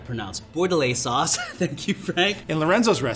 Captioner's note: laughs